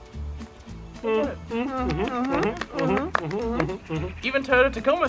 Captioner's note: hesitant mhm's and claps